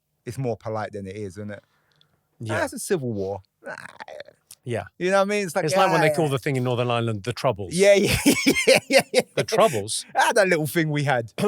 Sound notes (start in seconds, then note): 3.6 grumbling; 8.0 laughing